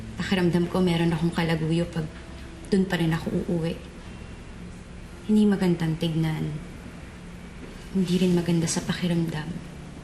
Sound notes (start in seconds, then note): none